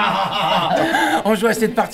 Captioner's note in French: Rires